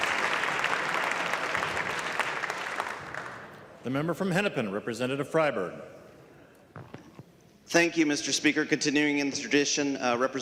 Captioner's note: clapping